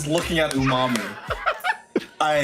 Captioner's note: laughs